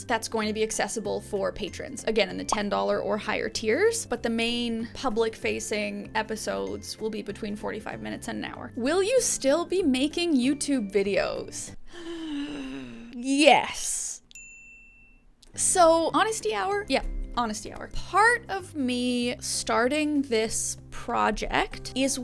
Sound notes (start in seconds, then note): 11.8 inhales; 14.3 bell dings